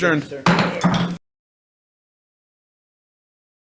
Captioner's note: loud thump